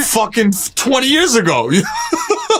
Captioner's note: laughs